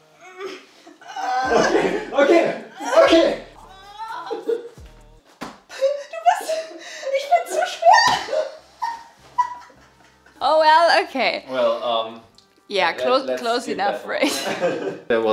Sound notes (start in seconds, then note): 1.0 groans; 6.3 speaks in foreign language